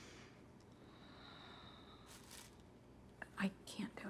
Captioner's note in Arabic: جوان تتنهد